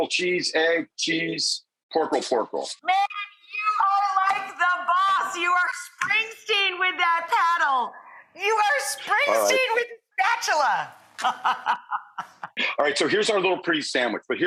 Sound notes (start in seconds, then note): 11.2 Rachael laughing